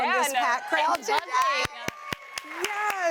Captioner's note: applause